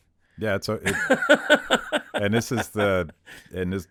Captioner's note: laughing